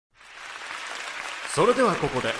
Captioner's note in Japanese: 拍手